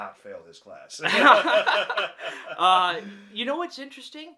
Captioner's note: both laughing